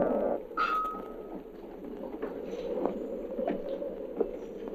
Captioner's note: wind howling